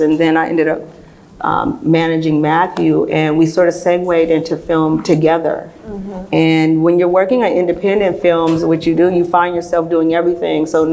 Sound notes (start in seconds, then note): none